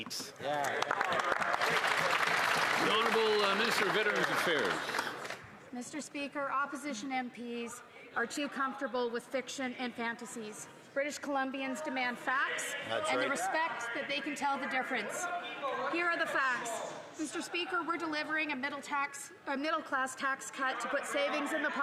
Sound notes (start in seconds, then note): 6.2 some Applause